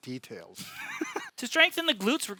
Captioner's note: laughing